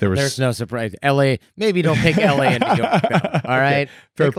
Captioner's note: laughs